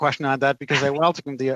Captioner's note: laughter